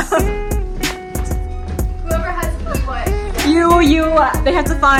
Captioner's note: laughter